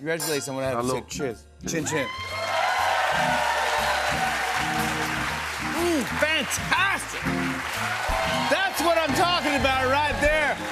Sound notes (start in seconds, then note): 2.6 cheers and applause